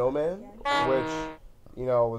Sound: clown Horn

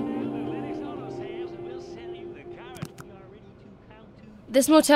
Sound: radio commentator in background

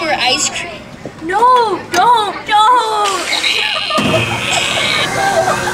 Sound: laughs

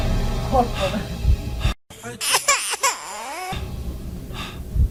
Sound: cry

